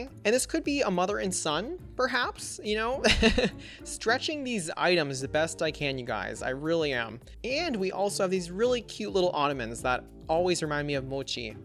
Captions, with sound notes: And this could be a mother and son perhaps, you know? (Laughs) stretching these items the best I can, you guys. I really am. And we also have these really cute little ottomans that always remind me of mochi.